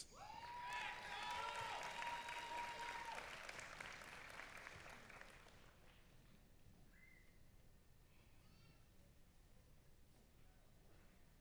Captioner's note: applause